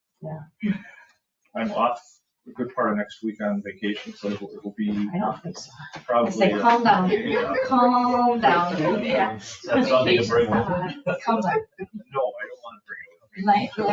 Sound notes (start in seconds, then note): 6.0 people chuckle; 9.0 people chatter